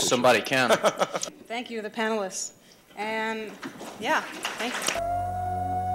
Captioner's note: applause